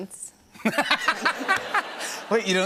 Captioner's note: laughter